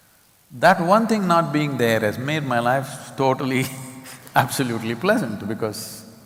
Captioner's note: laughs